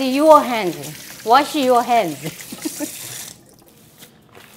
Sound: laughs

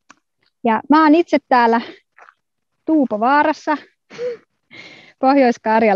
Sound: laughs

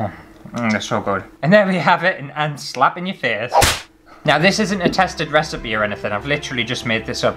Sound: slap

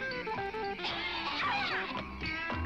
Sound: Doll yelps

